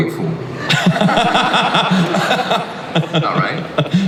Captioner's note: Chris laughs